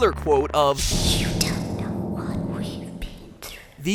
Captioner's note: eerie, quiet voice. The audience is shaking in their custom seal leather boots